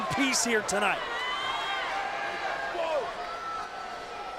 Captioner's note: crowd yelling